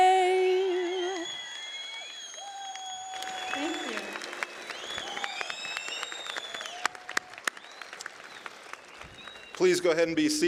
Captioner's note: cheering